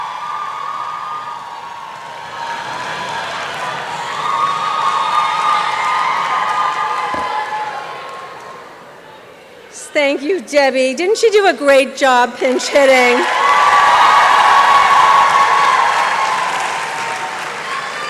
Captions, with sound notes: - Thank you Debbie, didn't she do a great job pinch hitting? (applause and cheering)